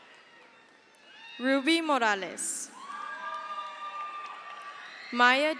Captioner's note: crowd cheers